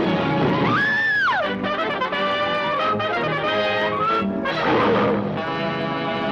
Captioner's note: Lois screams; triumphant music; gorilla snarls; light dramatic music